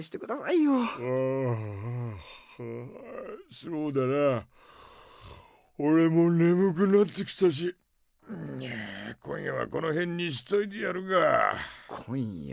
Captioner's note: yawn